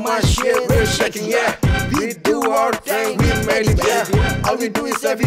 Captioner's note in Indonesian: skaart skaart